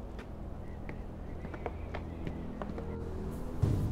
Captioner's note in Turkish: Adım sesleri